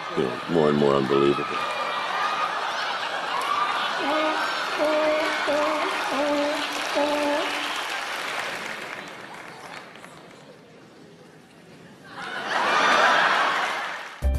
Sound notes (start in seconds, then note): 4.0 seal barking; 12.1 laughs